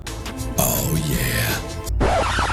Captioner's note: sexy voice